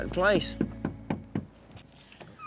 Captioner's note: knocking